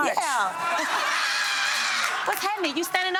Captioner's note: audience laughing